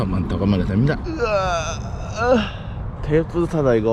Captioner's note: sighing